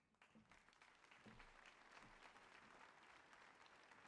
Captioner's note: audience applauding